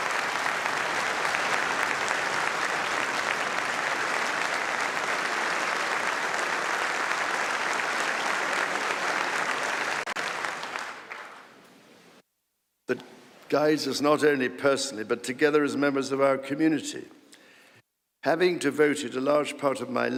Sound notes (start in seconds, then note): 2.4 applause